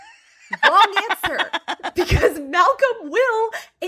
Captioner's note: laughs